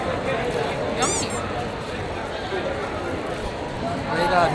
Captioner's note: haha